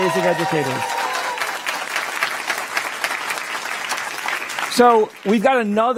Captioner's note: applause